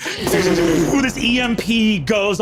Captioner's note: vocalizes electricity crackling